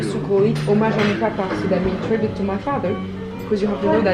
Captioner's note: speaks in foreign language